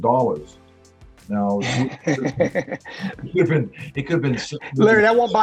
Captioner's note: laughing